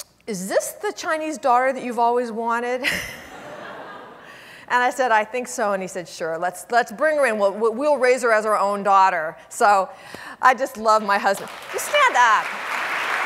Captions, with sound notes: "Is this the Chinese daughter "that you've always wanted?" (laughs) (audience laughing) And I said, "I think so." And he said, "Sure, let's bring her in. "We'll raise her as our own daughter." So I just love my husband. (audience applauding) You stand up!